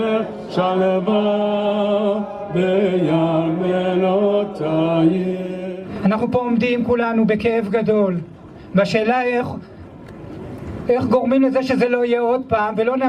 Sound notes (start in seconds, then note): 6.0 speaking foreign language